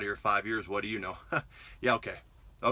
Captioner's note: chuckles